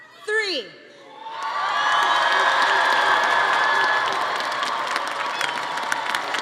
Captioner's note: audience cheering and clapping